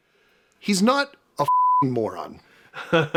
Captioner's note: beeping